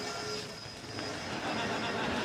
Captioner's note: metal scraping